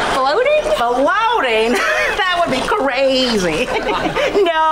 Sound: chuckles

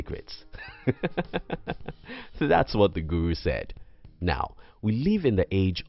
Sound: laugh

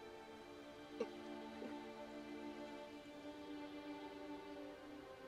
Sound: gurgling

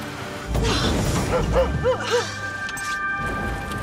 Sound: bumping; Dancer barking

